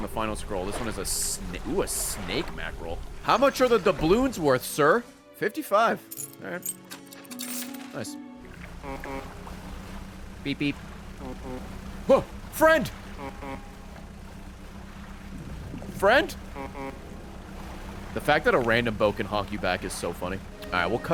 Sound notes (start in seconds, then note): 8.4 honk honk; 8.4 distant honk honk; 16.1 honk honk